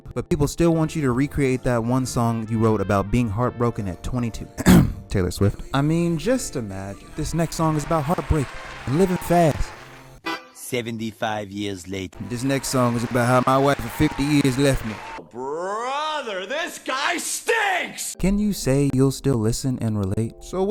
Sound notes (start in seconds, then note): 4.6 clears Throat